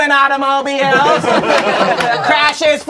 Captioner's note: crowd laughing